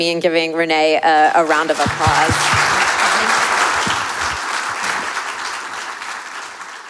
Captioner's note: audience applauding